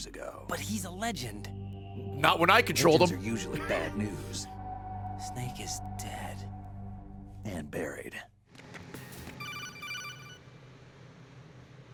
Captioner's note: laughs